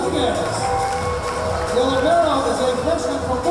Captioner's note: cheering